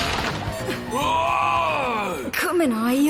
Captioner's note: screams; barbaric screams